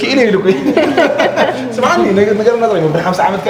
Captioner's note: laughs